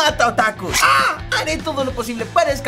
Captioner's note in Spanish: Grita